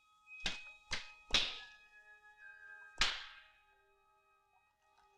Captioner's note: flashlight knocking